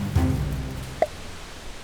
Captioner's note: pop